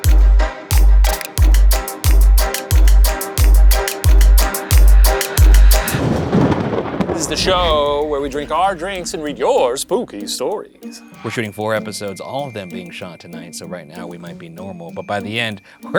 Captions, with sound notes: (thunder rumbling) - This is the show where we drink our drinks and read your spooky stories! - We're shooting four episodes, all of them being shot tonight. So right now we might be normal but by the end,